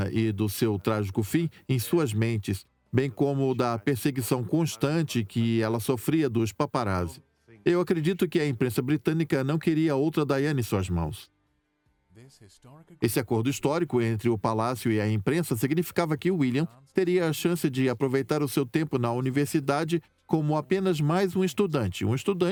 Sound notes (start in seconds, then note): 11.5 voiceover